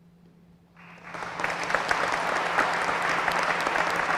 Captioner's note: applause